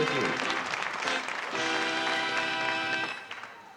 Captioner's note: applause